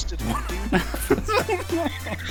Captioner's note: laughter